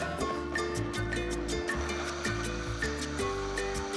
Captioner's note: blender whirs